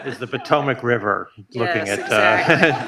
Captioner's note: audience laughs